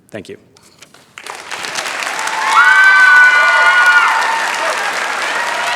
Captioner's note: cheering, applause